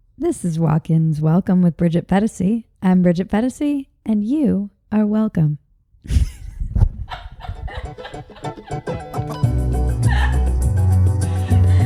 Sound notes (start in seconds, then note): 6.0 laughs; 7.8 upbeat music